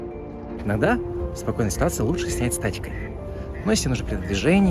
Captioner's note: Quiet splashing of the Yenisei River; ducks croak again from behind